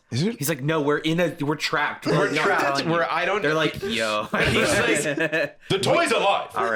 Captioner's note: laughs